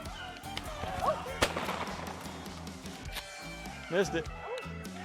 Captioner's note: gun fires